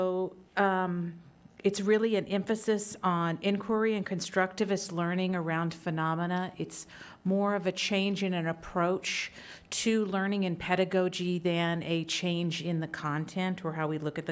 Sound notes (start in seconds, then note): none